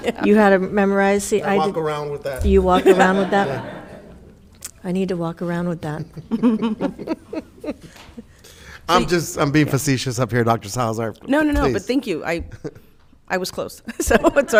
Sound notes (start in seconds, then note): 5.8 laughing; 12.7 laughing